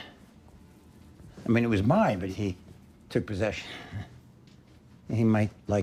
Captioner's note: laughs